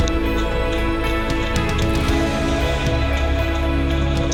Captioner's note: footsteps